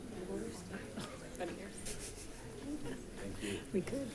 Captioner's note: crowd chatting